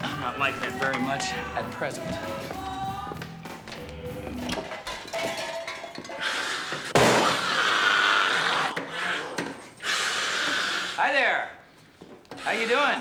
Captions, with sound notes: I'm not liking it very much at present. (clattering and hissing) (growling) Hi, there. How you doing?